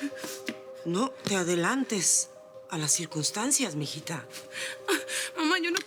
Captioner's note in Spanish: Sollozos